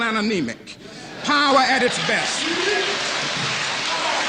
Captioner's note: applause